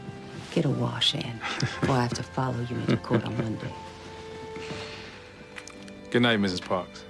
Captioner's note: chuckles